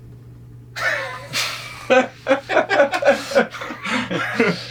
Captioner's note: both chuckling